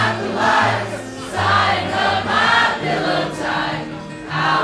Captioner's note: crowd